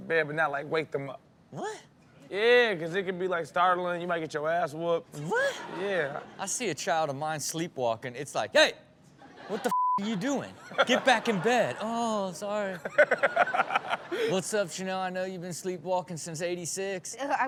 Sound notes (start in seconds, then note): 9.7 beep; 10.0 audience laughs; 12.8 Steelo chuckles